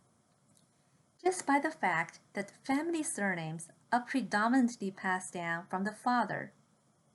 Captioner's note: click